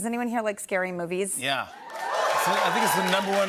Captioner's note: cheers and applause